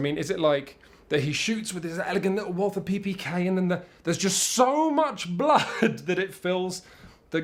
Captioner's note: chuckle